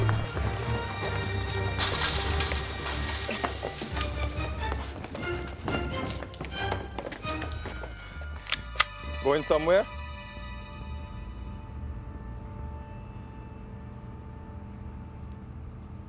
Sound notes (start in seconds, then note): 8.4 gun clicks